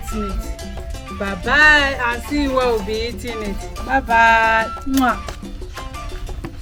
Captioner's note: kisses